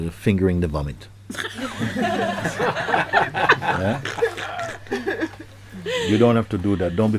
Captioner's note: laughter